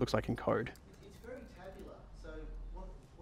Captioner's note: voiceover